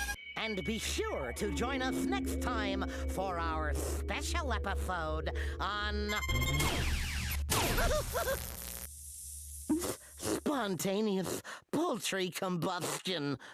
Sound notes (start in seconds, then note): 7.9 yelping